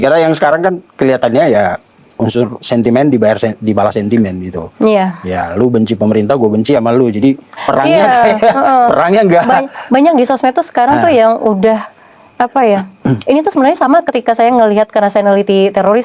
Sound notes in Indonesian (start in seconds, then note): 7.9 tertawa